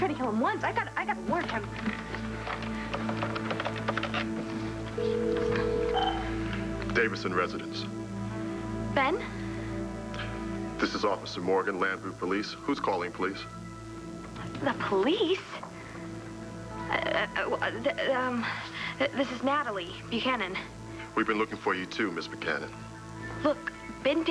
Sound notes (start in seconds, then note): 7.3 phone rings